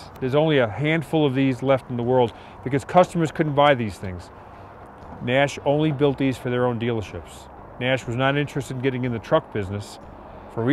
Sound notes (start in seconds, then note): none